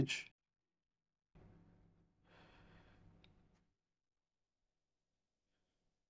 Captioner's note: silence